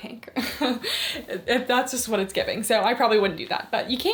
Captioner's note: chuckles